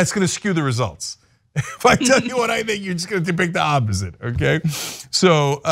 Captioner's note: laugh